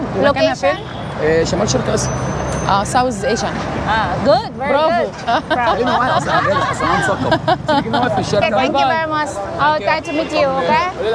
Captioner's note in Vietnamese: Tiếng cười